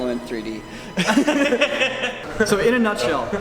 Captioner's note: laughing